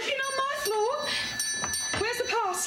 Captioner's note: bell ringing